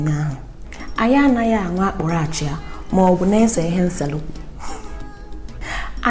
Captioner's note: giggles